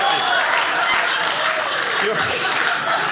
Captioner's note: audience applauding